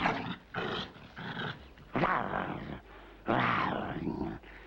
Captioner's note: snarling; growling